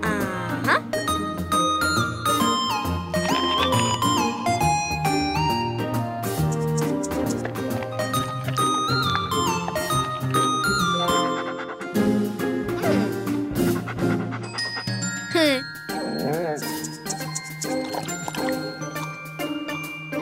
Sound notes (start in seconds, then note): 11.2 panting; 17.0 chewing